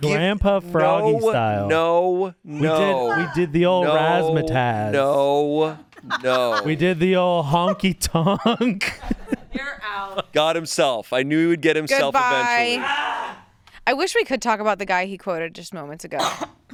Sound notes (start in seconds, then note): 5.8 crew laughing; 12.6 screams